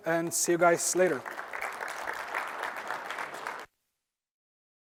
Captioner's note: applause